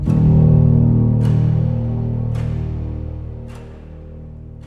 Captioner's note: clock ticking